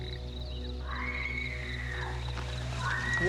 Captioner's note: woman screaming